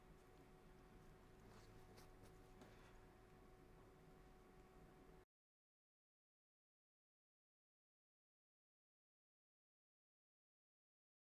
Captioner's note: silence